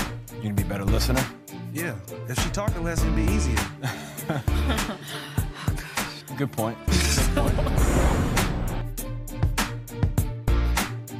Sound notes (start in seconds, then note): 3.8 laughter